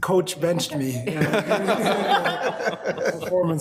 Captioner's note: all laughing